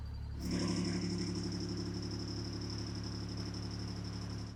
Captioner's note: machine thrumming